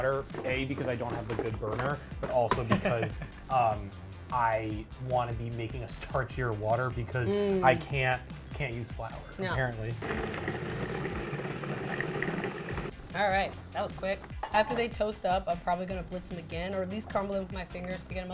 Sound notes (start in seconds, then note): 2.7 laughs; 10.0 blender whirs